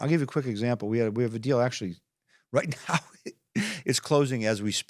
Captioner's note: laughs